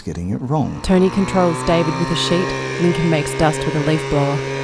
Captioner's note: leaf-blower roaring